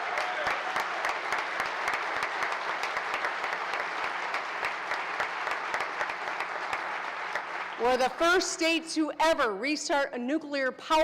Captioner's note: applause